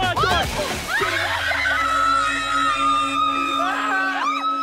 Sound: women screaming

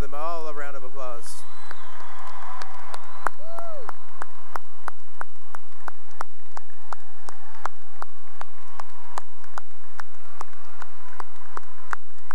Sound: cheering and applause

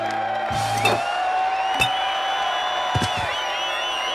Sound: clunking; thumping

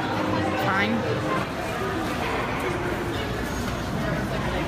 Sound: distance people chatting

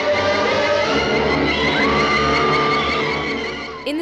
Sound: screaming

